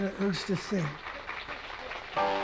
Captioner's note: applause